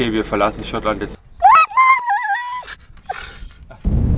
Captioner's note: Caesar howls; heavy wind